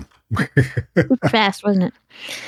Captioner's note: laugh